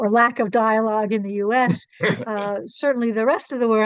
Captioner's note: chuckles